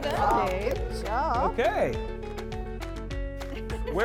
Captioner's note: laughing